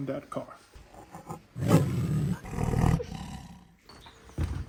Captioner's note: roar